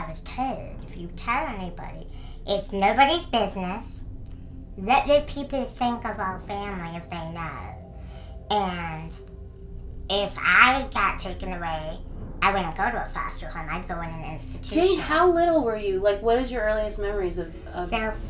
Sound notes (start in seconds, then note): none